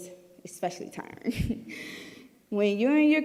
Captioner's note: giggling